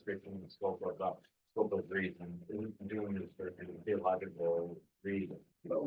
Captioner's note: student speaking faintly off mic